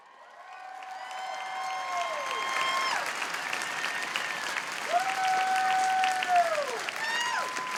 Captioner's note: applause